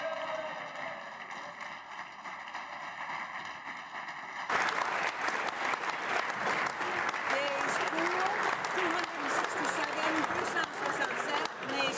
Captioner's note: applause